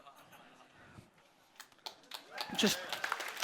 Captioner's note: audience clapping